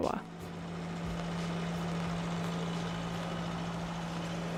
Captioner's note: boat engine whirring